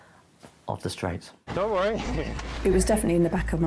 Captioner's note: chuckles